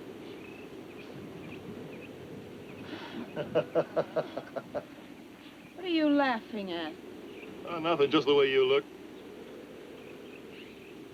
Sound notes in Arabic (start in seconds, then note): 3.2 يضحك كلاي